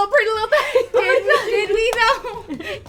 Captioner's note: laughs; all laugh